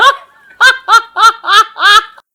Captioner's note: laughs